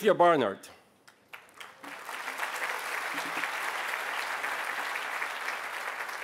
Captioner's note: applause